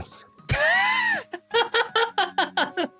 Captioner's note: laughs